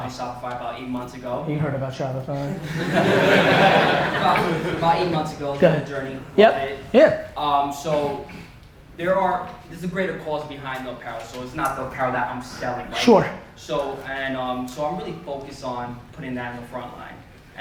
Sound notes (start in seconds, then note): 2.5 audience laughter